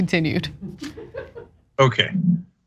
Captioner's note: laugh